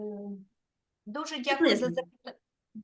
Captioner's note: speaking Ukrainian